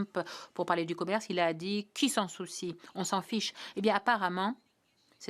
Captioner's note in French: voix de l'interprète